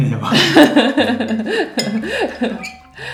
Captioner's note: laughs